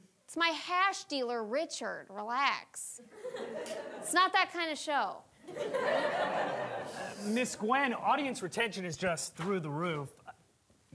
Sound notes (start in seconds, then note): 5.5 audience laughing